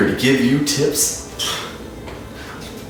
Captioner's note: exhale